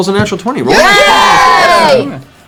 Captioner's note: cheering